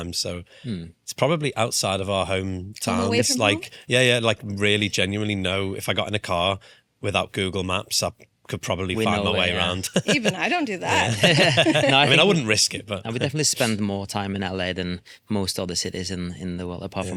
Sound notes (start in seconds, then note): 9.0 laughing